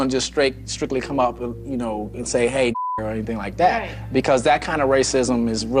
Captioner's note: beep